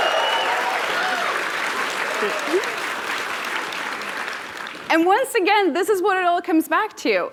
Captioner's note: applause